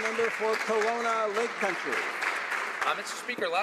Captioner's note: some Applause